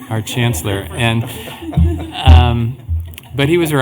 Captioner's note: laughter